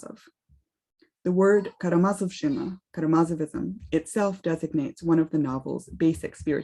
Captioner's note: speaks russian